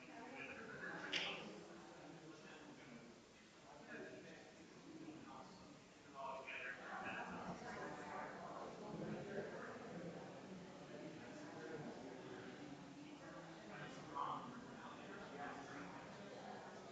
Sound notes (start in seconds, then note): 5.8 people chattering distantly continues